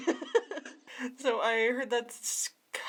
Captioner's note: laughter